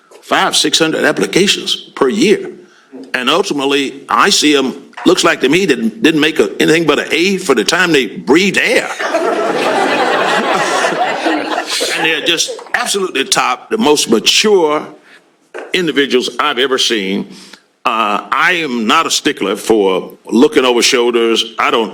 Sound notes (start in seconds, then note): 8.9 laughter